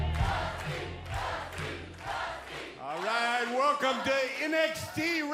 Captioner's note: crowd cheering